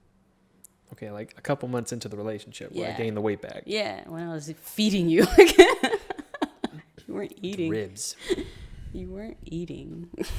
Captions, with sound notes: - Okay, like a couple of months into the relationship, right? - Yeah. - When I gained the weight back. - Yeah, when I was feeding you. (laughs) you weren't eating... - Ribs. - You weren't eating.